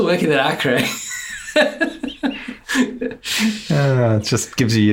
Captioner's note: laughs